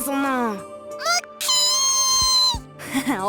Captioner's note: irritated shriek; awkward chuckle